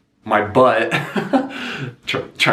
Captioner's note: laughing